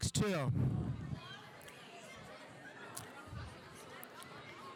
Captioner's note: audience chattering